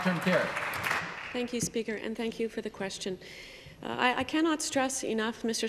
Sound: applause

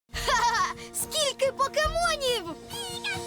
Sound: laughs

